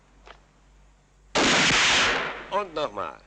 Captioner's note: gun fires